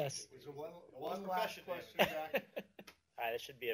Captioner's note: laughter